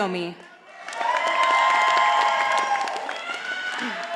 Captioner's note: audience applauding